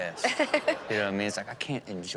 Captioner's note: audience laughs